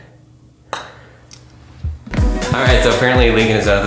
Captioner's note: hits golf ball